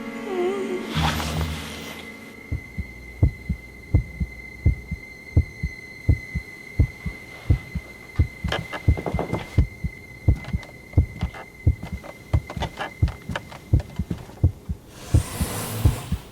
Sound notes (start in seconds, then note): 0.3 whimpering; 2.5 heart thumping